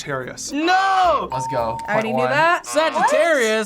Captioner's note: bell rings